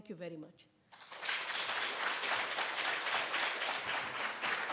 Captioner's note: audience applauds